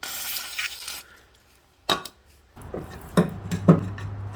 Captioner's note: spraying sound